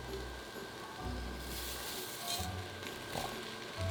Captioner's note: lentils pouring